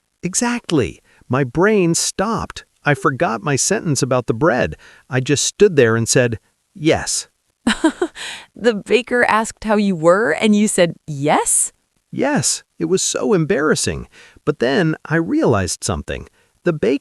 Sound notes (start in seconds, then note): 7.7 laughs